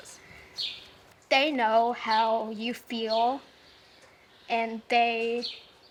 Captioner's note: birds chirping